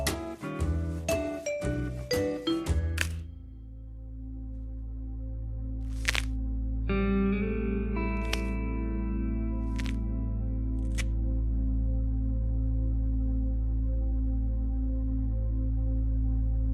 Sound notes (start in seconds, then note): 3.8 Crujido; 8.0 Chasquido